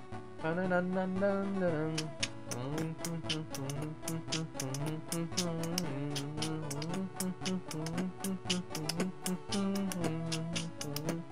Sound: beatboxing to music

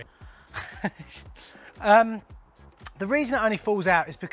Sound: laughs

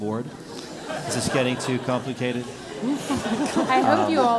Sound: laugh

